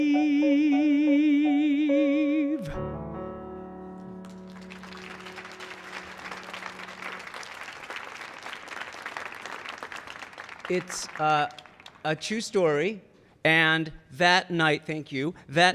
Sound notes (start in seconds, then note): 4.0 audience clapping